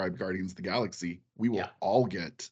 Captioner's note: laughing